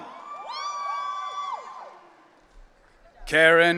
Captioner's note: audience cheering